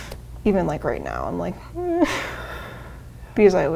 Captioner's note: anxiously groans